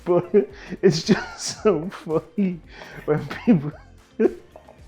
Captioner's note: laughs